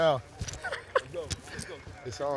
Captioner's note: laughing